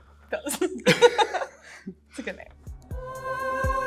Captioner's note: chuckle